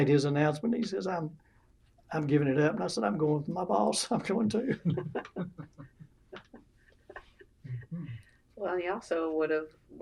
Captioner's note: laughter